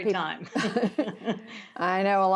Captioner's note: laughter